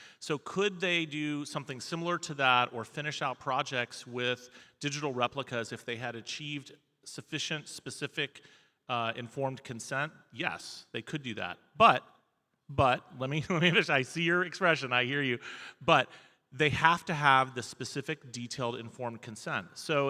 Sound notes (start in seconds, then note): none